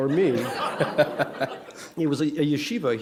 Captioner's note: laughter